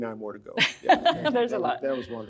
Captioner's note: laughs